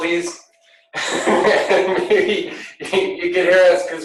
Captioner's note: laughter